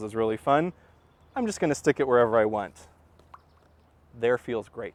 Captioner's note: pop